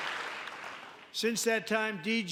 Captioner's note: applause; cheering